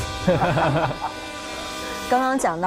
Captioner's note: laughing to tears